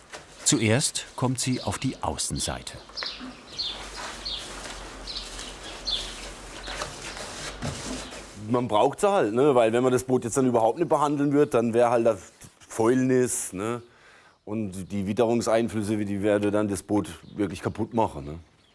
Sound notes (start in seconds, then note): 3.5 birds chirping